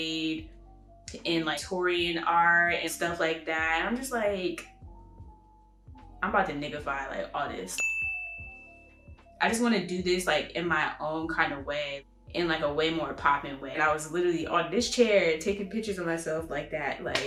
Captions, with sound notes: in like Victorian art and stuff like that. And I'm just like... I'm about to n*ggify like all of this. [ding sound] I just want to do this in my own kind of way In like...a way more poppin' way. And I literally on this chair, taking pictures of myself like that like...